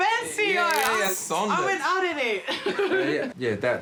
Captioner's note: chuckles